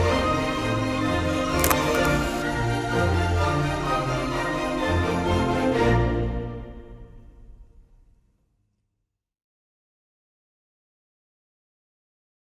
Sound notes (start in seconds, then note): 1.5 camera shutter click